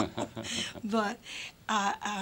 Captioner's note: laughter